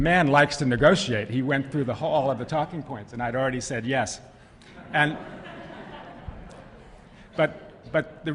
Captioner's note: laughter